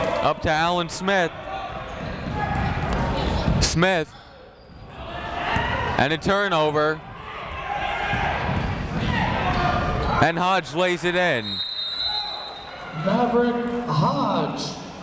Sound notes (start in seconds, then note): 11.4 whistle